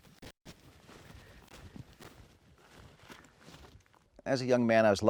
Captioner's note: feet stomping